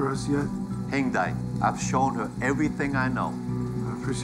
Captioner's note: speaks Mandarin